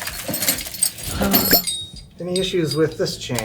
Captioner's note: gasps